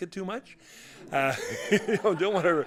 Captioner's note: laughter